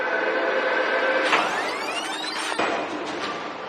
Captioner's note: taprerewiining